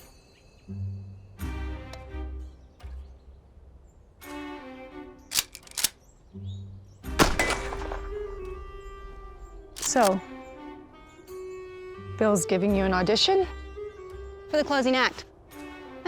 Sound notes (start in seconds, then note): 5.3 cocks rifle; 7.1 gunshot